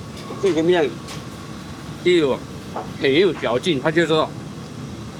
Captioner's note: speaking in foreign language; chef speaking in foreign language